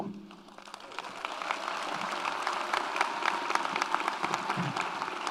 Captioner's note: audience applauds